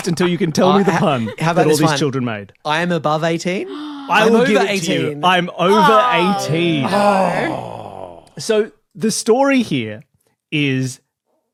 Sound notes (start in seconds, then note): 5.6 groans